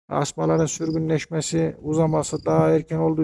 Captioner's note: none